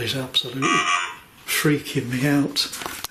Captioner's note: Voice on Ovilus